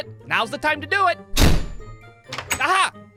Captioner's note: thud!